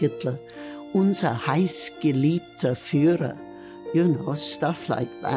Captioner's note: speaking in foreign language